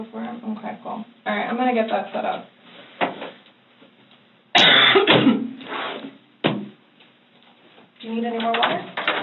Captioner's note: coughs